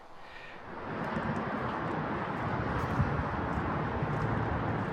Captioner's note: sound Of The Urban Streets